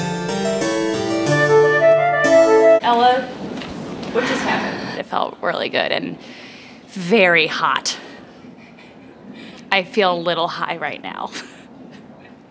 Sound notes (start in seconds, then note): 11.2 laughs